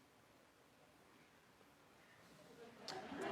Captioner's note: lauger